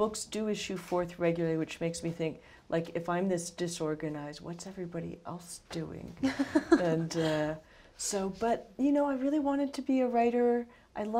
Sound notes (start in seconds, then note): 6.2 laughter